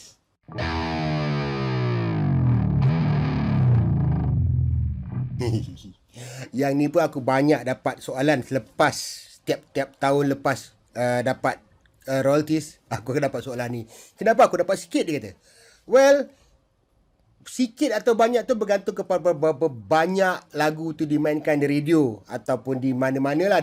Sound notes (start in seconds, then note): 5.3 chuckles